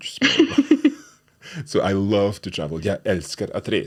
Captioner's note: both laughing